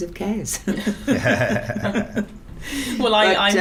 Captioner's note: Siân, Kezrena, Kate and Michael laughing